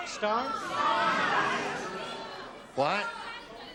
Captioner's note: audience shouts